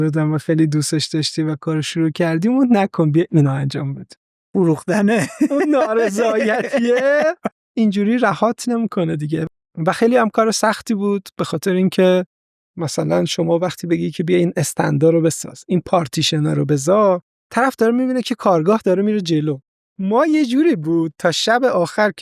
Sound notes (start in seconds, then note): 4.9 laughs